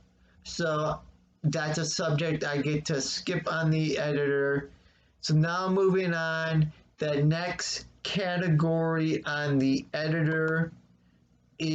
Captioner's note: click of trackpad